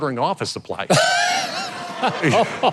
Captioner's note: audience and host laughing; chuckles